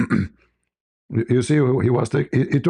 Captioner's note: berdehem